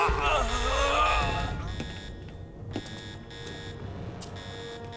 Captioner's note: alarm blaring